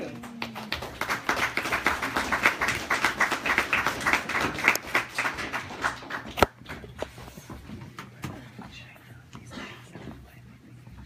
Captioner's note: audience applauds